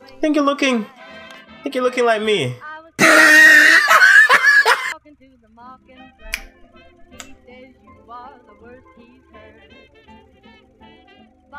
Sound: laughing

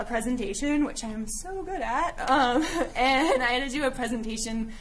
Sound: giggling

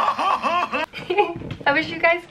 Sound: laughs; chuckles

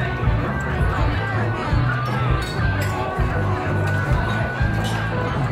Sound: heavy rock music; people chatter

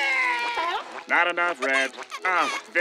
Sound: crying

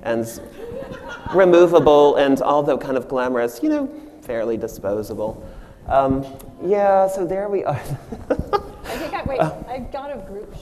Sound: audience laughs

